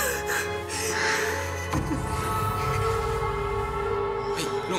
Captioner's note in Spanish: sollozos